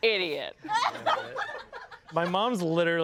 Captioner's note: everyone laughs